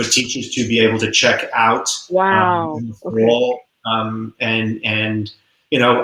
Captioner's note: voice muffled